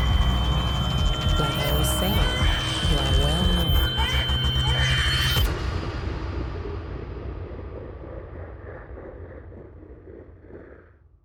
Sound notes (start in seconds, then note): 4.4 baby cries; 4.4 high pitched tone; 5.2 dramatic musical score